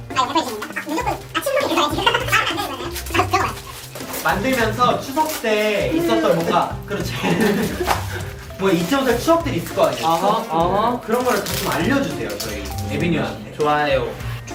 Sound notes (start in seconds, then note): 7.4 trying not to sneeze